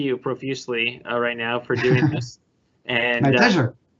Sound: laughing

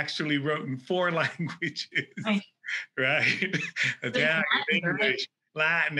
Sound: laughs

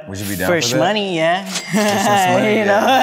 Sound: cash register dings; laughing

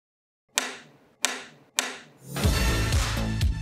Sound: take clapper closing; upbeat dance music

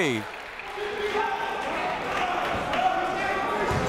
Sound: chatter

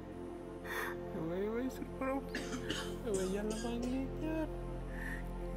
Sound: praying continues

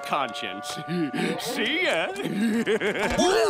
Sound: laughing

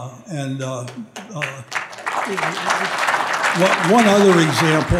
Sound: audience applauding

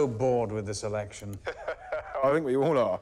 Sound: laughs

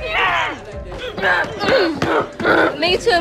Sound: all grunting, punching pillows

